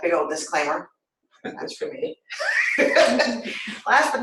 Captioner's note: laughter